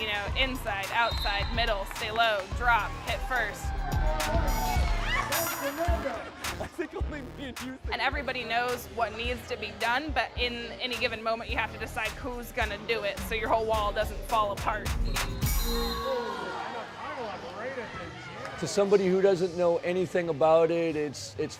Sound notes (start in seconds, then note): 14.9 whistle